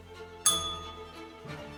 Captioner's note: bell rings